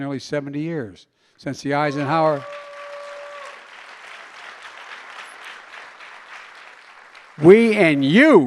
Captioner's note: applause